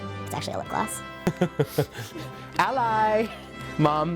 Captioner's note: laughs